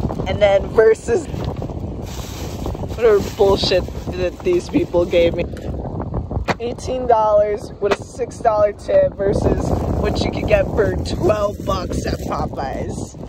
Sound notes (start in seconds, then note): 1.2 plastic bag crinkling; 6.5 hand slaps